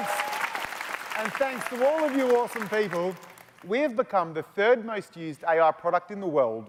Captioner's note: applause